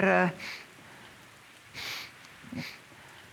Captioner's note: pounding rain outside continues